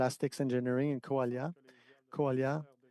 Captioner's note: speaking French